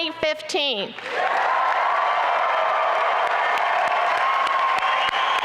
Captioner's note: applause and cheering